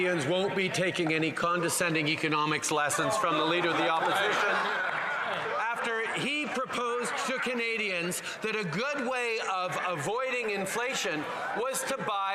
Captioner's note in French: voix de l'interprète